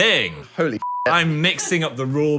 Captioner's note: beep